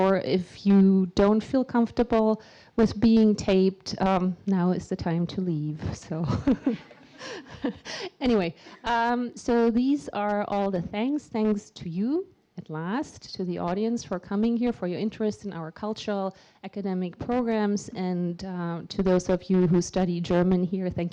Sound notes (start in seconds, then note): 6.4 laughing